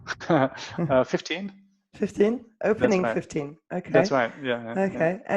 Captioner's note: laughs